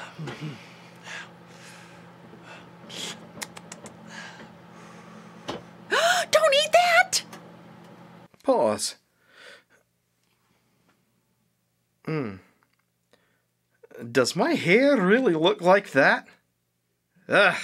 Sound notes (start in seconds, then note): 2.9 lip smacking